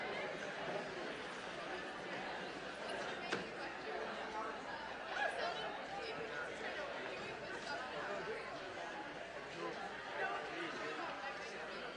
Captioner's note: crowd noise